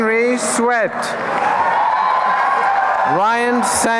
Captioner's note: applause and cheering